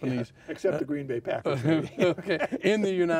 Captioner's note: laughing